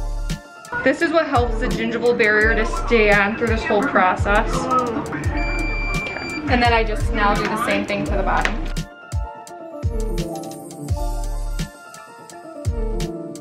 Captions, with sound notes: This is what helps the gingival barrier to stay on through this whole process. (dental machine beeping) And then I just now do the same thing to the bottom. (chill music)